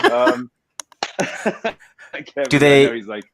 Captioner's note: Jet laughs; Jet claps